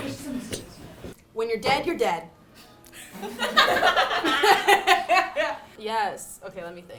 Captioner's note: laughs